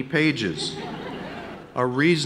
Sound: audience laughing

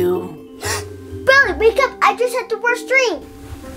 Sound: gasp

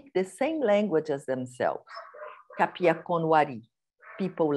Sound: non-english speech

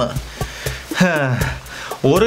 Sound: catches breath

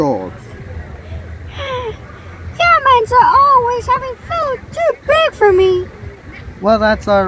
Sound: sighs

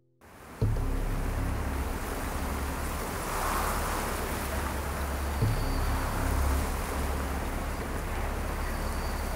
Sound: wind gusts

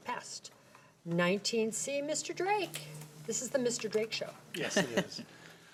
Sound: laughs

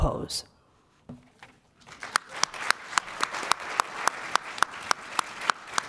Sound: audience applause

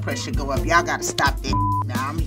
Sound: beep

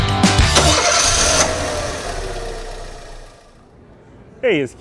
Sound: car engine starting

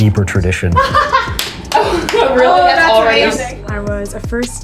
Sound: laughing

